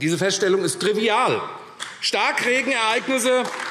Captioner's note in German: Beifall AfD